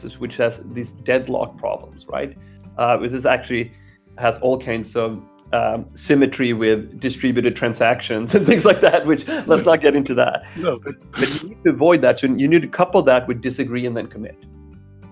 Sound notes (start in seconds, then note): 8.3 laughing; 11.1 laughing